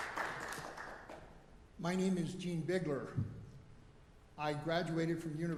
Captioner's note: applause